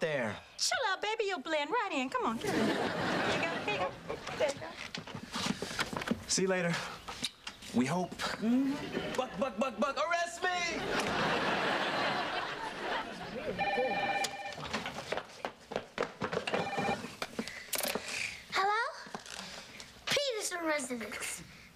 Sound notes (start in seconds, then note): 13.5 telhone rings; 16.6 ring